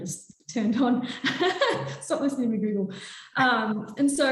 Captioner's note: laughs